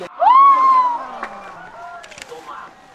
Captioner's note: cheering